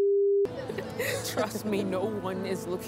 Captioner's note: laughs